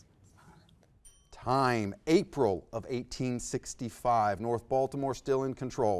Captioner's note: bell dings